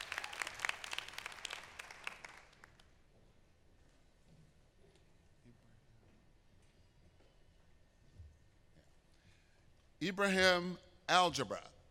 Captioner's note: applause